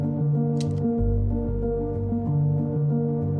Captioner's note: slides click